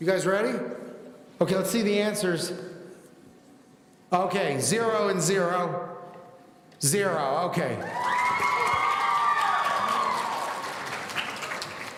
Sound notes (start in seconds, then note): 7.8 audience cheering